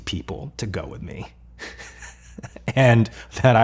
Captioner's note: laughs